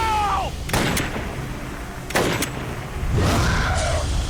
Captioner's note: gunshots